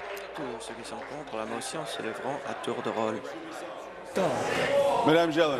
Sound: applause

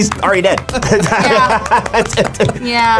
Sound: group laughs

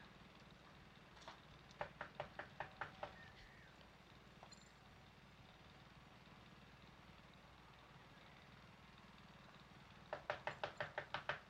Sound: knocking on door

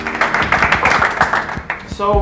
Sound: applause

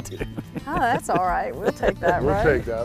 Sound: laughter

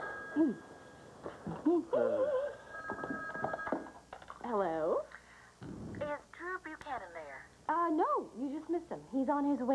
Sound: telephone rings

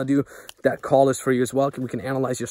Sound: snap

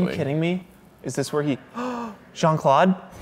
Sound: gasp

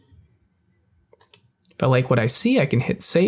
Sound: mouse clicks

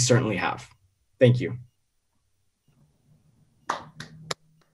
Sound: people clapping

